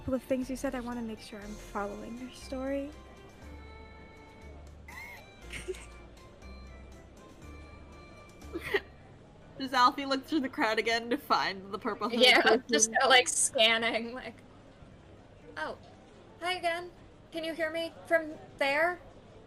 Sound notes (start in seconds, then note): 5.4 laughs